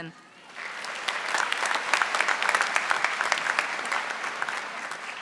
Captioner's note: audience applauding